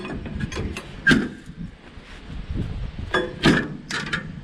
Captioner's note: banging